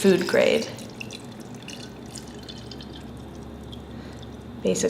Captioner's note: sound of liquid lime solution being poured into stoneware crock